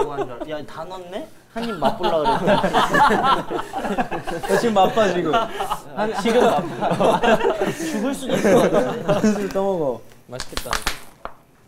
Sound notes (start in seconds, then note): 2.6 laughing